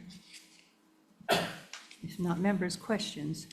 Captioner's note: person coughing